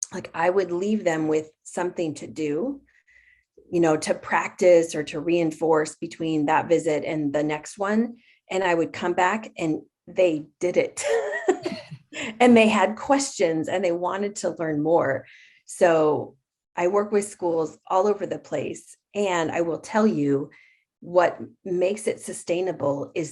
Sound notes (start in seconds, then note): 11.7 laughs